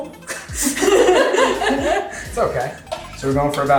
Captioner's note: laughing